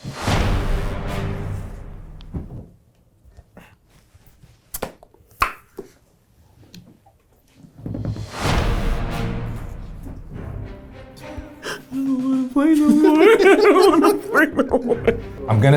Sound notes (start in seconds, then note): 0.0 upbeat adventurous music; 5.4 mouth popping; 8.2 upbeat adventurous music; 11.6 laughs; 12.5 laughing